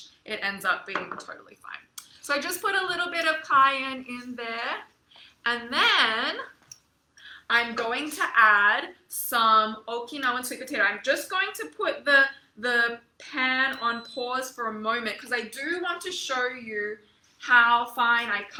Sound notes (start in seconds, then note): 13.6 stove beeps